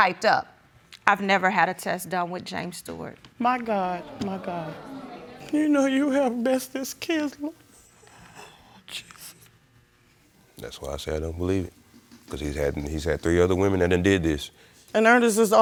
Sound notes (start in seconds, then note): 3.8 sobbing